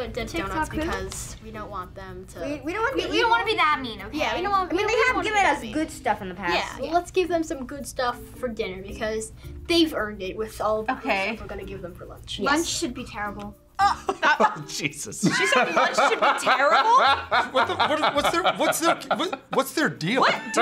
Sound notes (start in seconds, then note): 15.2 laughs